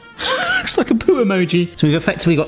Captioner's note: laughs